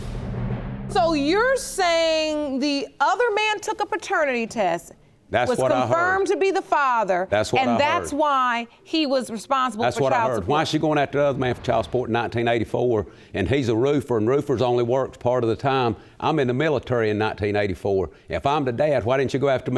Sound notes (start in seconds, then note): none